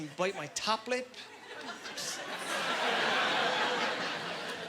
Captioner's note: laughing